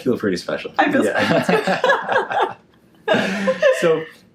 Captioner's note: laughs